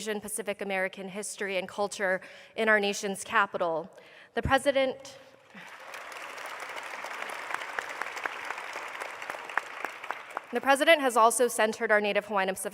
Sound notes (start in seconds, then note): 5.4 applause